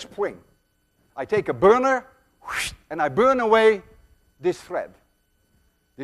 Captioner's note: whooshes